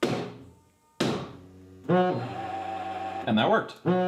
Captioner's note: hammer thumping; printer droning